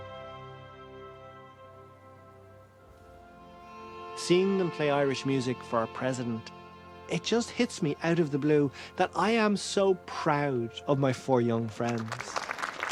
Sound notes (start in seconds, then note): 4.1 voice-over